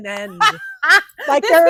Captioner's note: laughing